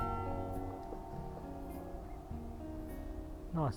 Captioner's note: bells